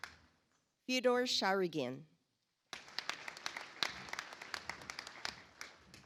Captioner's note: audience applauds